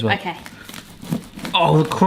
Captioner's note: bread crunches